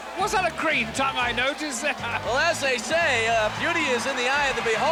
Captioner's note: crowd booing